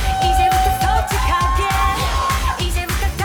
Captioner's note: cheering